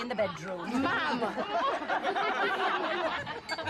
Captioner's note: semua tertawa